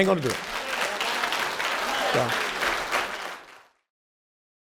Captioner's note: audience applause